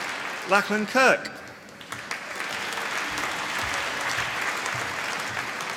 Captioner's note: applause